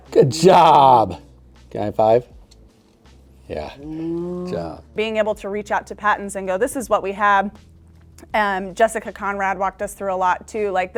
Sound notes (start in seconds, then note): 4.4 muttering